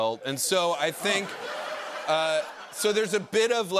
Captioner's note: laughter